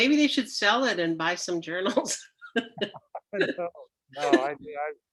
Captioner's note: laughs